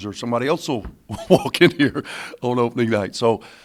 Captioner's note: laughs